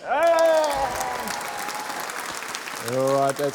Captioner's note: applause